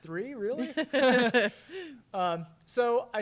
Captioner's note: interviewer chuckles; chuckles